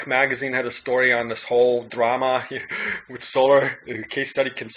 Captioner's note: laughs